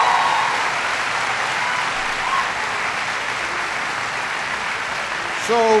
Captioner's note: applause